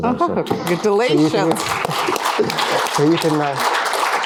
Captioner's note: applause